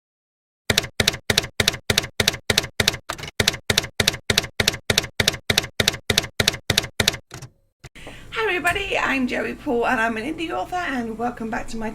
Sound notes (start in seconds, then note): 0.7 typewriter keys clacking